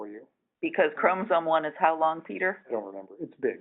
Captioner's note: voiceover